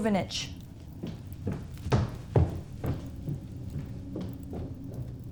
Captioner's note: footsteps thudding